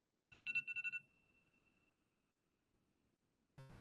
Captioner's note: timer ringing